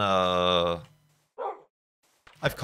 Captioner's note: woof!